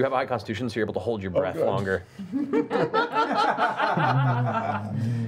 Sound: laughter

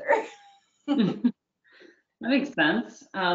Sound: laughing

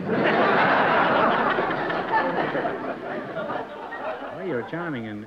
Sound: laughter

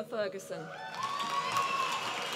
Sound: applause

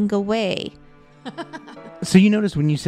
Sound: laughs

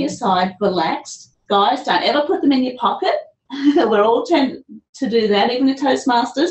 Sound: laughs

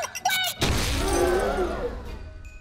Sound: exploding

